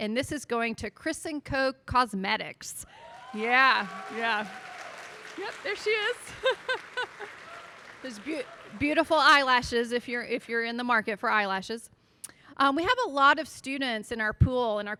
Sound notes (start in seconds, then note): 2.9 audience applauding